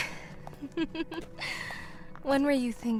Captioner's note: laughs